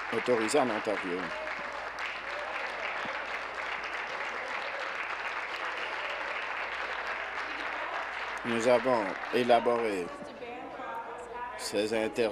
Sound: applause

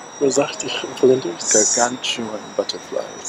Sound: foreign Language

